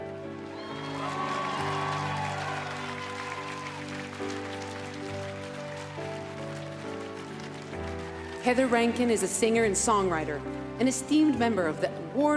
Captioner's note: speaking French